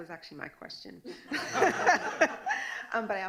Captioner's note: laughing